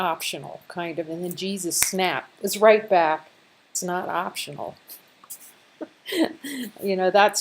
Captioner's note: laughter